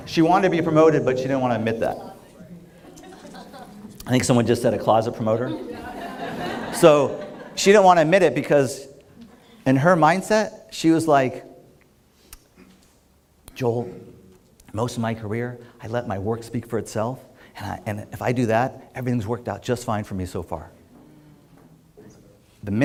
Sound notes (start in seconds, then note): 5.4 laughter